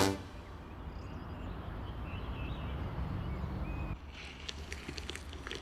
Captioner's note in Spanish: Trinos